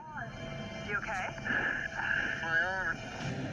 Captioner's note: labored breathing